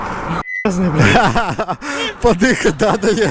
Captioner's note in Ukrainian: Матюкається